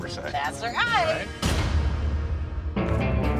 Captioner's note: echoing slam; country rock music